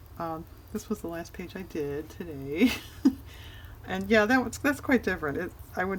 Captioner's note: laughs